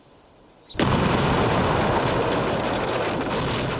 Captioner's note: bang